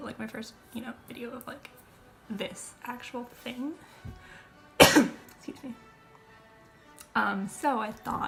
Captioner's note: cough